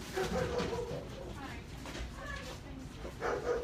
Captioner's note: Fudge barking